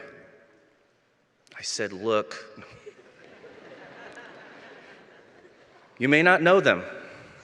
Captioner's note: laughter